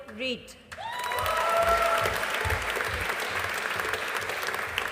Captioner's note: audience applauding